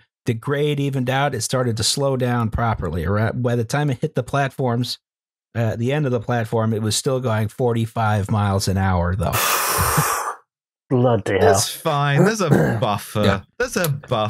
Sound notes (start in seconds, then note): 9.3 sucks in a breath